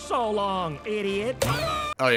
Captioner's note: boink